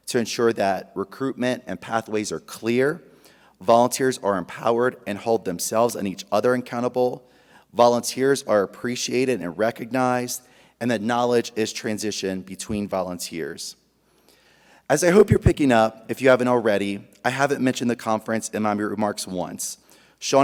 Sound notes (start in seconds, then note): none